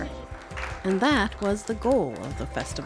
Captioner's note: audience applause